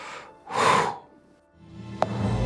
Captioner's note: Detective Wolf sighs